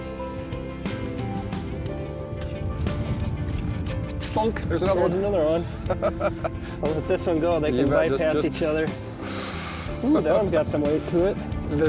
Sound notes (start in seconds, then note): 5.8 laughs